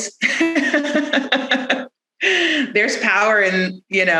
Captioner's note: laughs